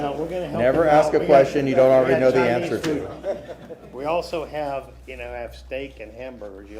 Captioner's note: laughter